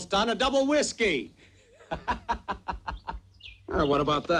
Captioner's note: laughs